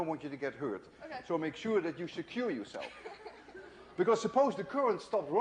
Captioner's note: laughter